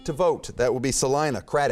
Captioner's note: beeping